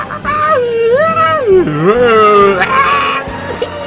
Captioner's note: screaming